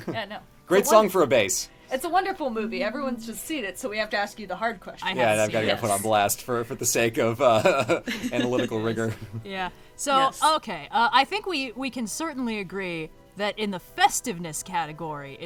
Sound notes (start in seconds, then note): 7.5 laughs